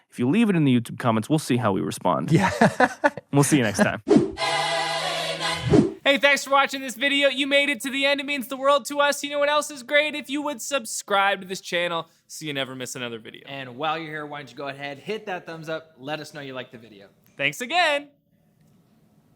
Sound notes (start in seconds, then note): 2.4 laughs; 5.6 air whooshing